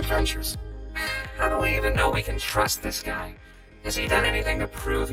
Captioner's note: sighs